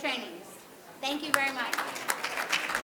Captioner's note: audience clapping